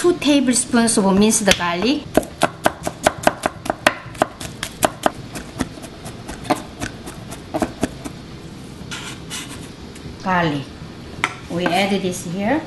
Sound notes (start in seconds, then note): 4.4 chopping